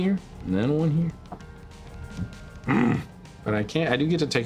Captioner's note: grunts